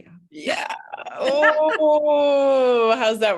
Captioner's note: laughs